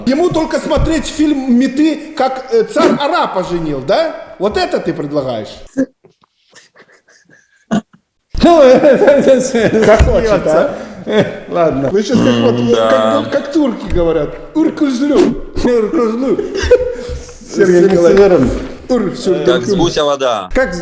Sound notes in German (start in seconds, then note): 5.7 lachen